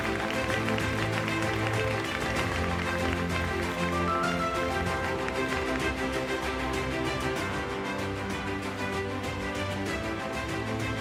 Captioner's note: applause, Music